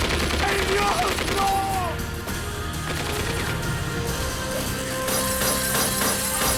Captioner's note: guns firing; Hector speaking in foreign language; glass shatters